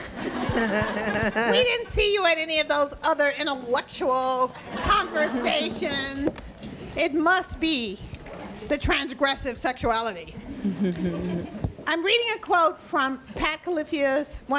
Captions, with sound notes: (audience laughs) We didn't see you at any of those other intellectual conversations. (audience chuckles) It must be the transgressive sexuality. I'm reading a quote from Pat Califia's,